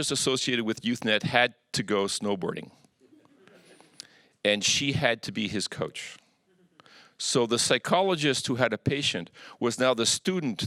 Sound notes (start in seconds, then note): 3.0 audience chuckles